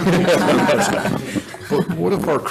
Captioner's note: all laugh